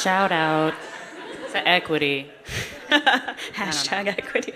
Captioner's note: laughter